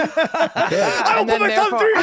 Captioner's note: laughing hysterically